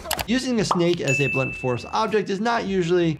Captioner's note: mousing clicking; bell ringing